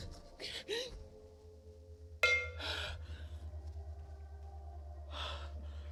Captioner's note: heavy breathing